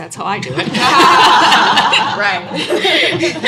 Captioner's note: laughter